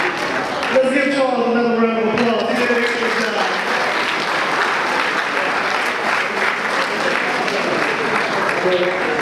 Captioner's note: audience applause